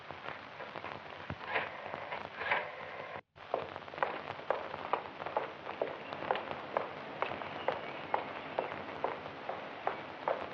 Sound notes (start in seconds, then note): 5.6 birds singing